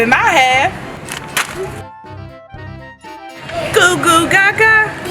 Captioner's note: plastic crinkling